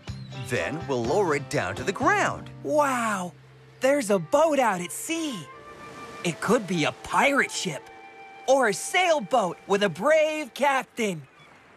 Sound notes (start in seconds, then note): none